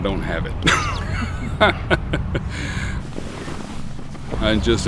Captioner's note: laughter